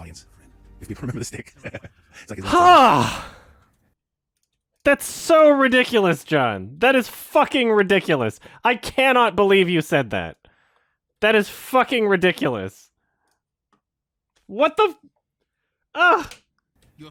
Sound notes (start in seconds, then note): 1.5 chuckles; 2.3 he says it like an extreme sigh